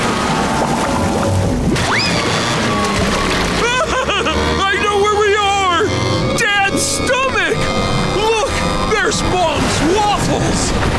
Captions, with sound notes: [laughing] I know where we are, Dad's stomach. Look, there's Mom's waffles.